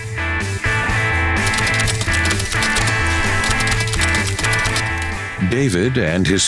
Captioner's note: upbeat music; typewriter clicking